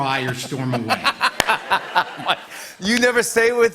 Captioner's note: laughter